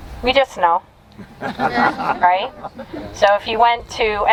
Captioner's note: audience chuckling